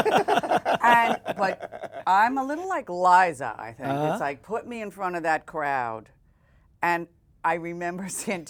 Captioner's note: laughter